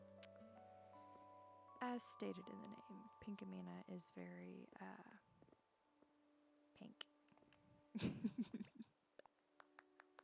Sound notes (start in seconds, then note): 7.9 giggle; 9.6 clap clap clap